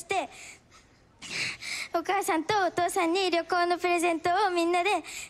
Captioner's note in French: speaking Japanese